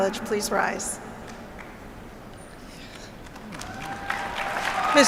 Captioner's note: applause